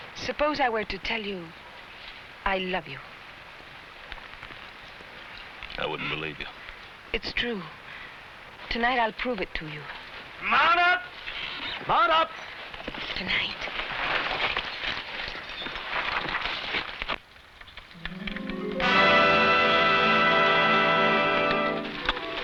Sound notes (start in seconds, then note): 13.4 whispers; 17.9 tense music